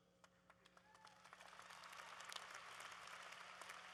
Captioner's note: applause